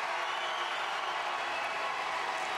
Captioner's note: applause